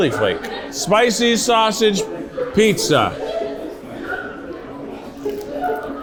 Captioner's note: crunches